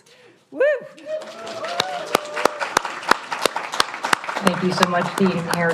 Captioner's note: audience applauds